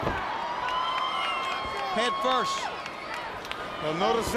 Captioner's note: applause